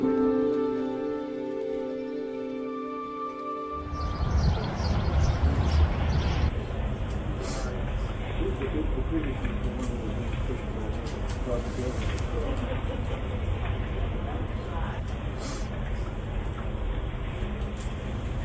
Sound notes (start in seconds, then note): 3.7 birds chirping; 6.5 group chattering